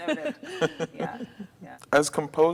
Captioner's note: all laughing